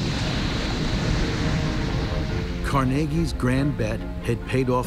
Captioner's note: sizzling